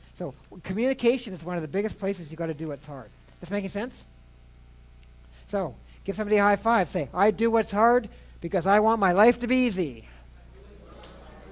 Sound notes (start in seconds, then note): 10.4 crowd chattering